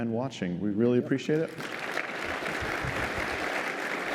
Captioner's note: applause